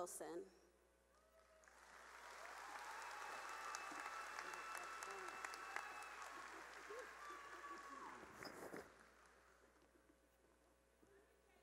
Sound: cheering and applause

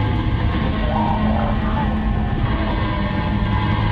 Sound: underwater yelling

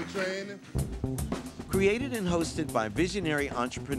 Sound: voiceover

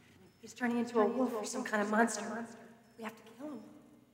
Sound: none

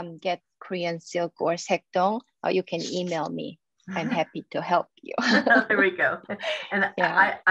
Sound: laughs

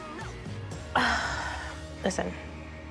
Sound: exhales loudly

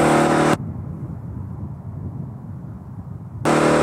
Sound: car engine whirling; gentle wind blowing; car engine whirling

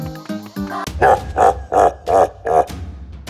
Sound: Bowser laugh

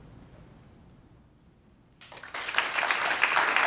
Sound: ^applause^

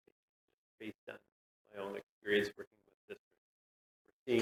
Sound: audio cuts out

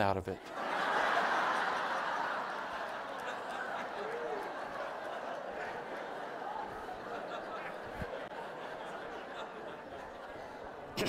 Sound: audience laughing

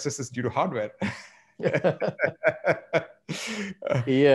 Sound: all laughing

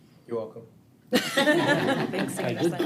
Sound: all chuckle

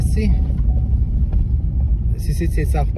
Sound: alarm beeps

